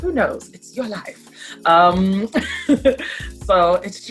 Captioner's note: laughs